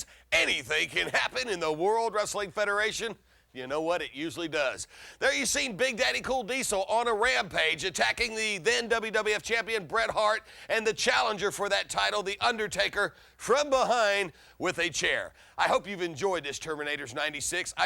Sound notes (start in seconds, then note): none